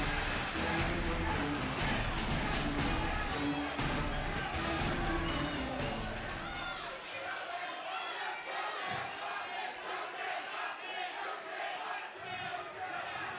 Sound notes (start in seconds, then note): 7.4 crowd chattering and chanting